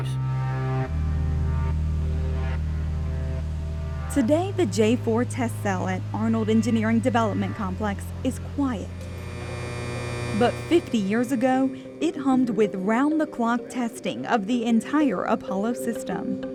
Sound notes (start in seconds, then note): 9.1 electric humming